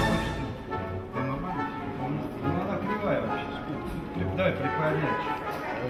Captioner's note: lively orchestral music; men speaking in the Russian language